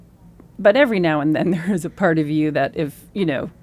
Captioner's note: laughs